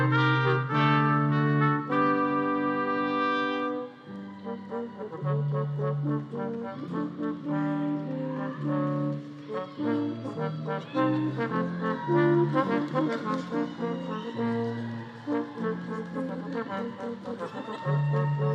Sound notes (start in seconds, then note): 3.4 group cheering; 4.1 upbeat music continues